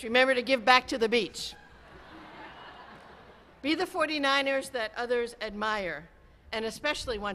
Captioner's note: cheering